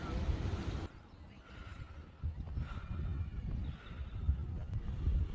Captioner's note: breath heavily